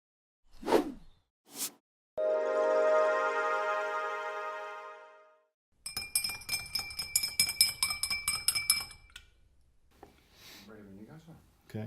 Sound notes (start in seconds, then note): 2.2 gentle music; 5.8 glass clinking